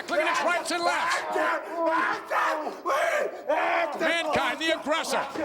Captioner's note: Mankind yelling